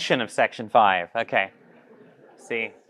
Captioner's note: audience laughing